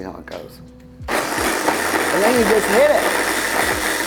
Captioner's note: blender whirring